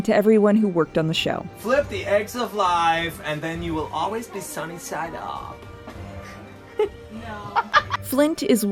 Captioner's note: in a silly American accent/voice